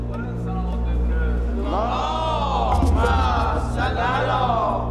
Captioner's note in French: Arabic spoken language